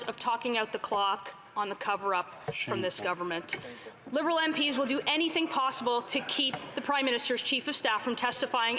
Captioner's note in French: voix de l'interprète